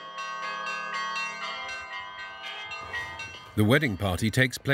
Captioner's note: bell ringing